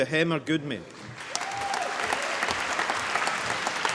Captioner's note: applause